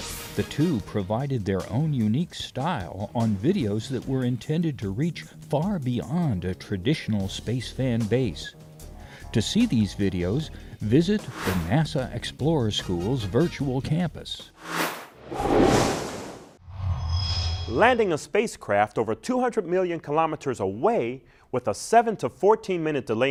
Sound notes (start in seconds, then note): 14.6 sound Effects